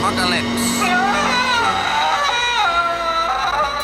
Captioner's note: screams